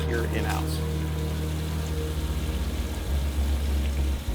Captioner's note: water splashing